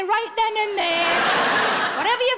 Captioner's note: audience laughing